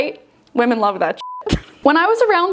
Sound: beep

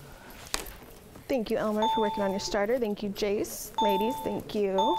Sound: ding

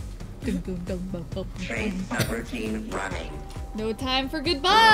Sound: mimics drumming

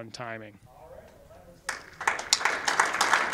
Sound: applause

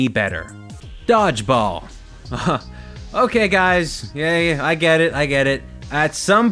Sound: laughs

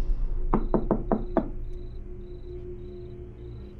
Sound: knocks

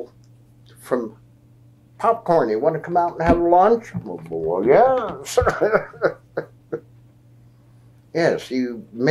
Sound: laughs

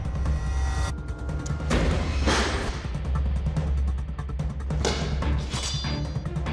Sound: blade impact sounds

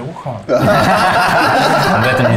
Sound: horselaughing

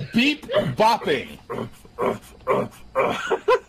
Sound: more grunting

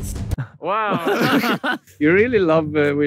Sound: laughs

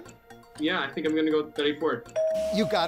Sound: bell dinging

